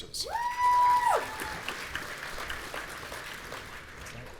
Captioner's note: audience cheering